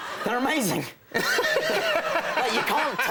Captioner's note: Conan laughs